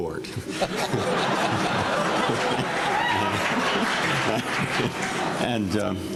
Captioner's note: laughter